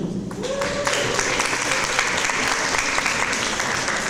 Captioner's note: audience applause